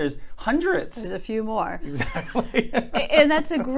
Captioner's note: laughs